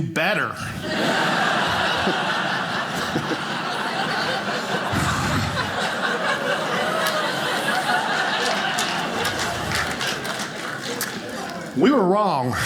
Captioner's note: audience laughing